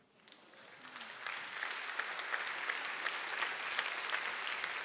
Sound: audience applauding

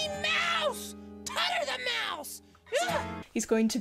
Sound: exclaims

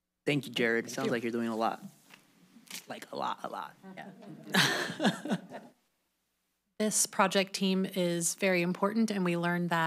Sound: laughter

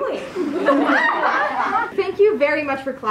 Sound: laughter

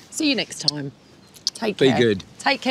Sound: kissing

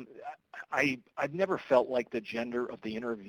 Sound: voiceover

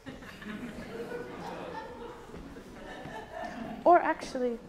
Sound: audience laughing

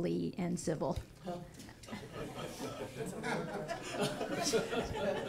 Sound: audience laughing

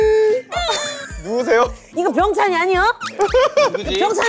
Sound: crying

